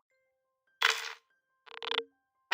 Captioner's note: static